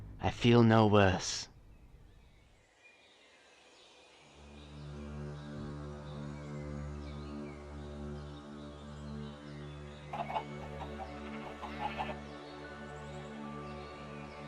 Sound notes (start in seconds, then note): 10.1 chickens cluck; 10.1 sheep baa